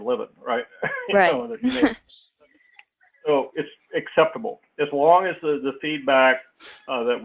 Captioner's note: laugh